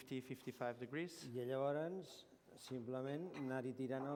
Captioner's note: non-english speech